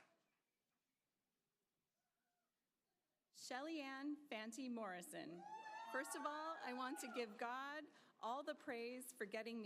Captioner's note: applause